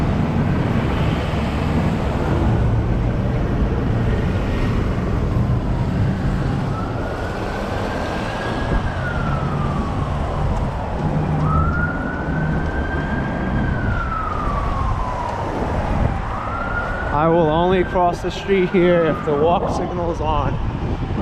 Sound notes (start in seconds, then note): 11.8 traffic and police siren in distance